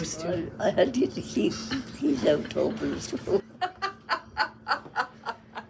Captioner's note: laughs